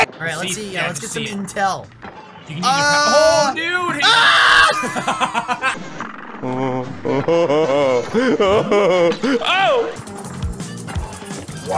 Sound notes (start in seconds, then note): 2.4 immediately screams and dies